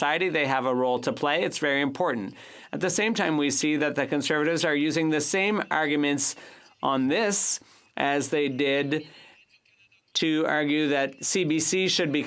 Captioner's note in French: voix de l'interprète